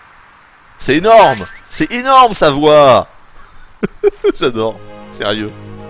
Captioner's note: giggles